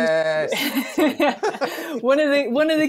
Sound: laughter

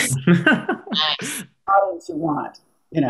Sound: laughing

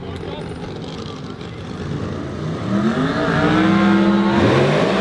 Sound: car engine

